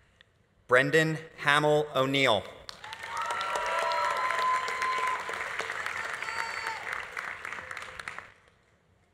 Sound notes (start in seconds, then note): 2.7 audience applauding; 2.8 audience cheering